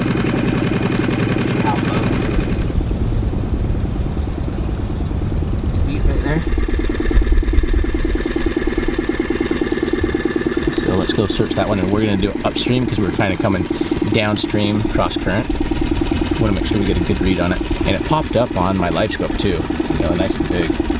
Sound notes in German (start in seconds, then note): 3.5 niedriges Motorgeräusch